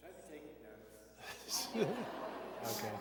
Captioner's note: laughter